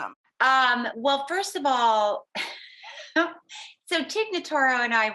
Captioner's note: laughing